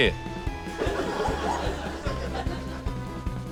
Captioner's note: laughter